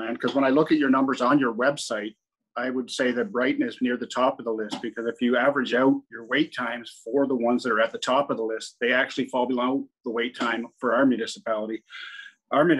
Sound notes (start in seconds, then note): none